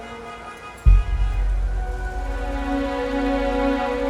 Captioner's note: horns honking